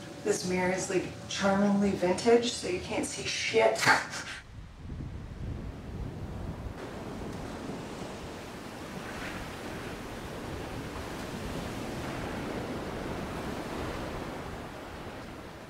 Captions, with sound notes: - This mirror is like charmingly vintage So you can't see shit. (laughs) (waves crashing)